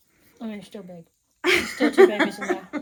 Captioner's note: laughs